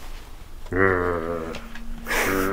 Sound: grunting; laughing

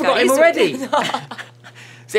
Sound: laughs

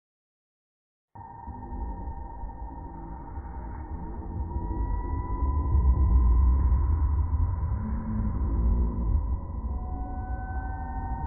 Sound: creepy dungeon ambience

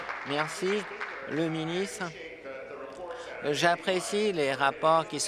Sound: applause

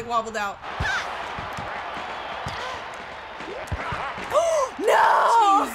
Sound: crowd cheers; gasps

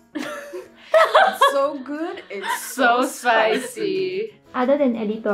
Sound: laughs

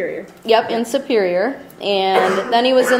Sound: voiceover

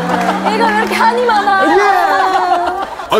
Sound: A loud cry

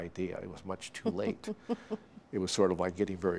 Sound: chuckling

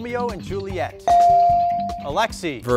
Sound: bell dings

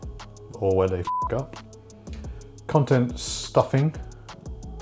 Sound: beep

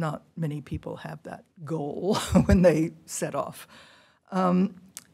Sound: laughter

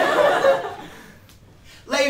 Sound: laughter

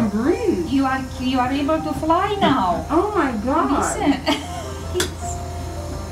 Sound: laughing

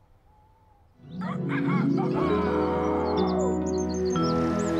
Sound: rooster Crowing

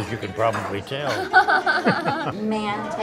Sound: laughing

